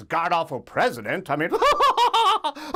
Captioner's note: laughs